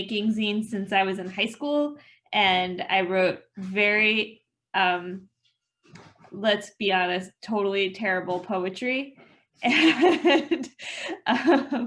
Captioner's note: laughter